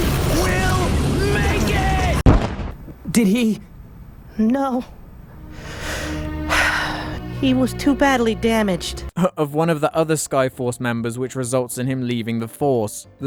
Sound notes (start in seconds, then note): 2.3 explosion; 6.5 sigh